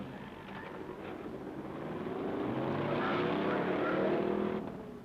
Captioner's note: engines revving